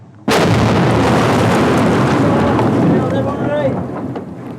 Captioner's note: bomb explodes